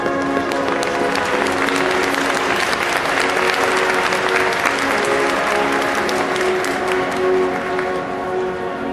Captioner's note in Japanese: 拍手